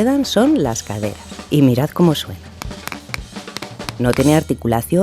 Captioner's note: clack clack clack